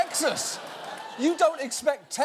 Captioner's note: audience laughing